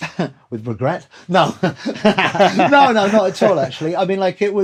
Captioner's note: laughter